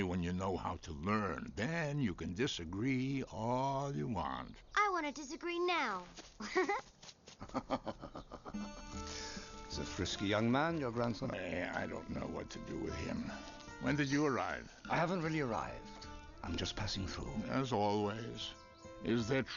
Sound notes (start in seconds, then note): 7.4 Rashi laughs